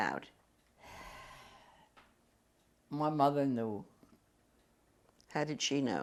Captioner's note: sighs